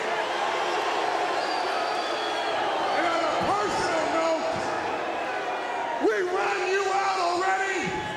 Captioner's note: crowd cheering